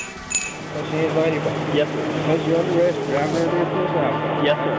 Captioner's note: glass being clinked